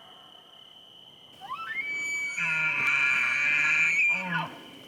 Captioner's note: elk bugles